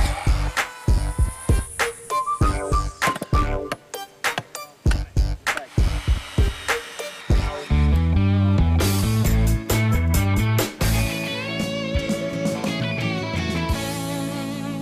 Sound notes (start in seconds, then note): 3.2 hammer banging; 5.6 drilling